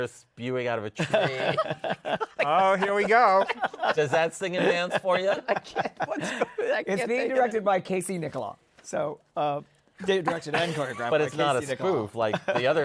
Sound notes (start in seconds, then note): 1.0 laughter